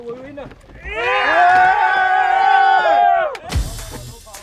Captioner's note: cheering